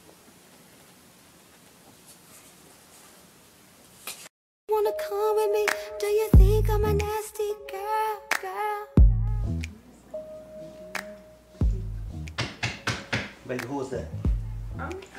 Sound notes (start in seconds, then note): 10.2 rhythmic music; 12.4 loud knocking